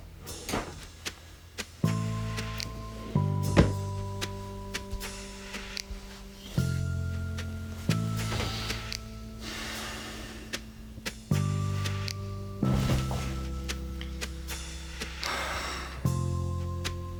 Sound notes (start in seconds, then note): 0.2 slow guitar groove continues; 7.9 deeply exhales; 14.6 sighs